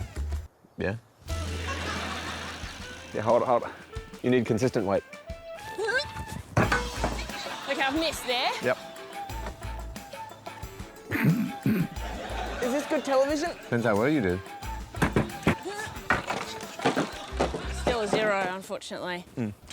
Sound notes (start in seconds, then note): 11.1 grunts